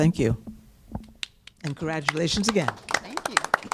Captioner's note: applause